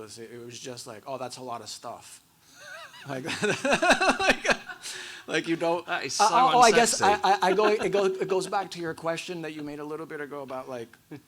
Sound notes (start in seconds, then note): 2.6 laugh